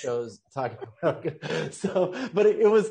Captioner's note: both laughing